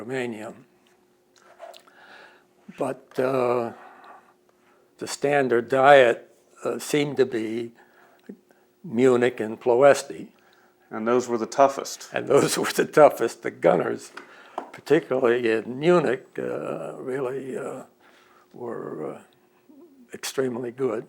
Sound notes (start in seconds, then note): 12.2 laughs